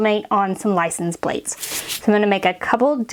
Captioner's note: metal scratches